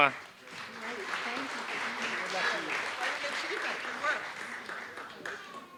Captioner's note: applause